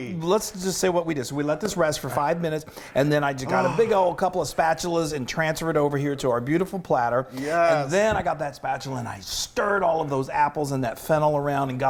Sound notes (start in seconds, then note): 2.0 claps hands; 3.4 sighs